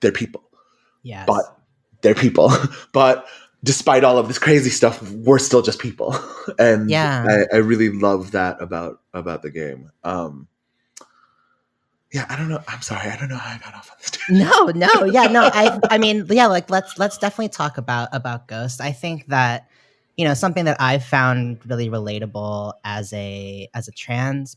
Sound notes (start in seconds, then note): 14.3 laughs